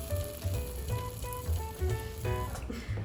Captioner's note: sizzles